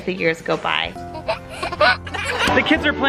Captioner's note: baby laughing